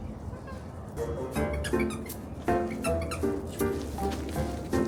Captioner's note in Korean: 강아지가 좋아하게끔 설계된 장난감 소리